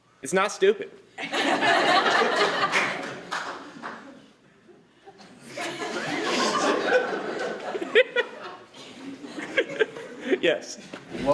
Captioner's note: laughter